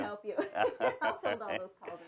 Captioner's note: both laugh